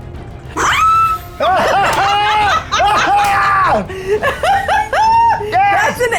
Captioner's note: shrieks; players cheering